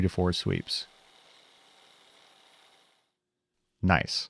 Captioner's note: machine continues whirring